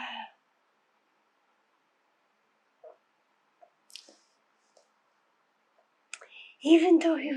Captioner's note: pauses 6 seconds